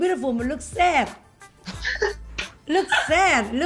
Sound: laughing

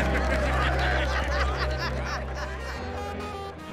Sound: cheering; laughter

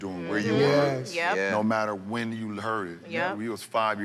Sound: all agreeing

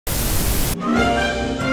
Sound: television Static

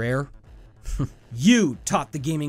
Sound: quiet chuckles

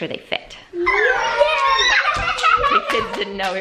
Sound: children cheering

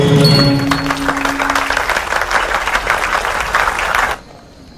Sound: applause

